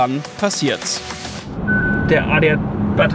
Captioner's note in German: Piepsignal